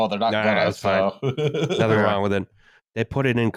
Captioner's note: laughs